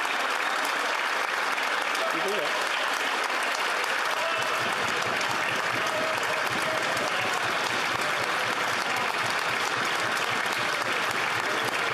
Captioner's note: applause